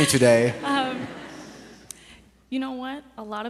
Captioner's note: audience laughs